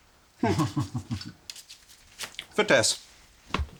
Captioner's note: Nazis chuckling